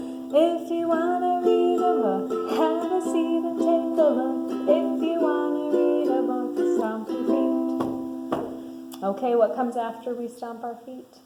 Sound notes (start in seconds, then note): 8.3 stomping